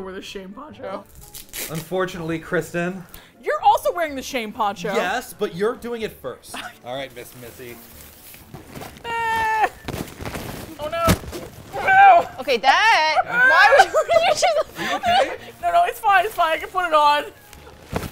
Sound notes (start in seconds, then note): 6.1 laughs; 11.7 laughs/sobs; 17.9 jaunty Music